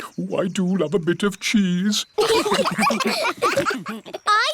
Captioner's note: laughter